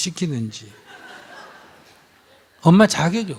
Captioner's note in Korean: 청중 웃음